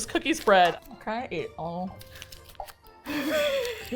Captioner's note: noms; both laugh